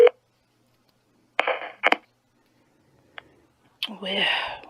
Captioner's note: phone still ringing; phone picked up and then phone quickly hung up